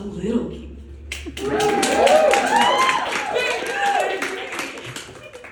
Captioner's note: audience applause and whooping